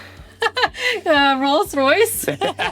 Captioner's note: chuckles; laughs